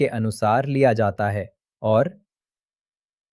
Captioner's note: pause